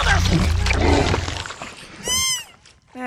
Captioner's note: growls